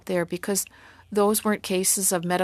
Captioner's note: speaking French